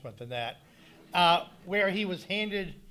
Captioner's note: audience laughing